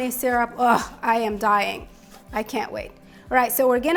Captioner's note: groans delightfully